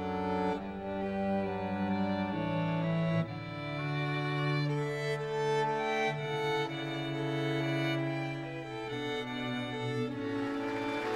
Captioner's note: applause